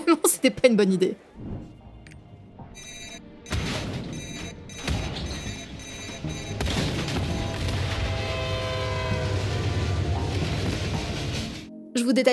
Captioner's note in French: bruits du jeu